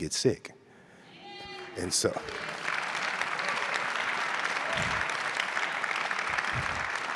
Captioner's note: audience cheers and applauds